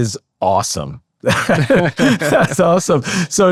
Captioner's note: both laughing